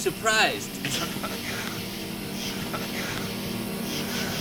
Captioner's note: laughs